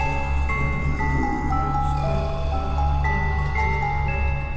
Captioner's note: entity growls; spooky music